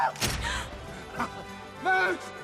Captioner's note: gasps